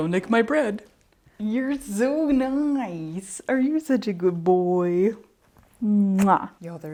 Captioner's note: big kissy noise